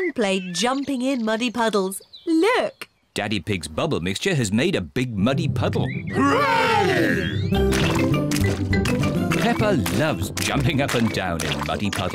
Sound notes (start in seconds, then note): 1.5 oinks